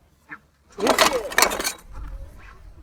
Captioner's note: hand tools clank